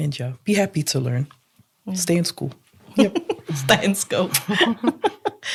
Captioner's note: laughs